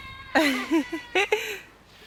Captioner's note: laughter